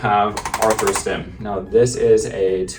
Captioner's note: ArthroStim tapping